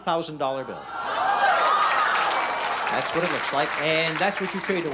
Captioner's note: groans and applause